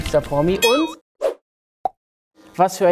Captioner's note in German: Dynamische Geräusche